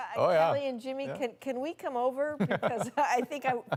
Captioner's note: laughter